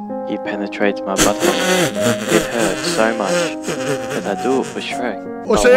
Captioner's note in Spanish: nasal